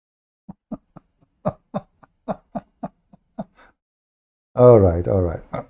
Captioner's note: Ketawa